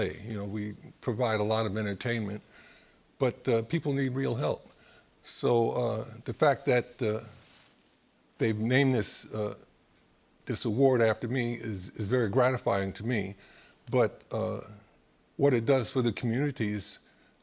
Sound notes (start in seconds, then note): none